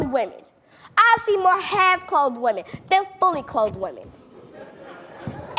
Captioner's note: laughing